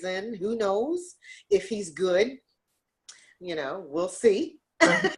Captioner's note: laughs